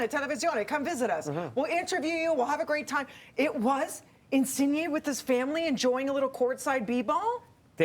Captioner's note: speaking Italian